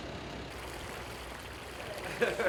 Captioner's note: water flowing